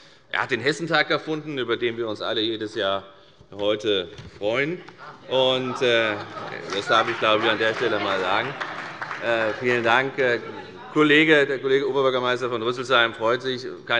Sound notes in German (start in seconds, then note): 5.0 Vereinzelte Heiterkeit